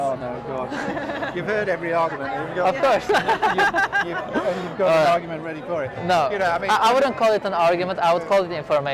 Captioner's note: lauhgs